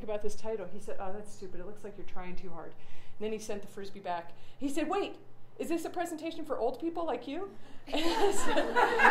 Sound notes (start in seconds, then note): 8.0 audience laughter